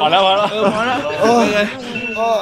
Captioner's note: sighs